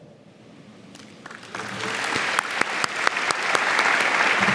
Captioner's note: audience applauding